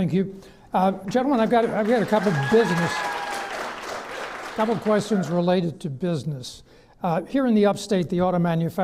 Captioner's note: clapping